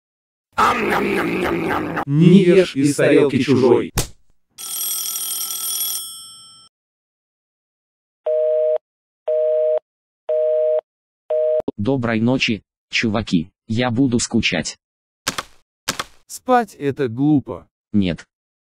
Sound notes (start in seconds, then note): 4.6 phone's ringing; 8.1 phone beeps